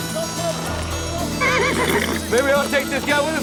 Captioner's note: horse neighs